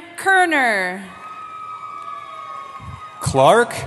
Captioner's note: cheering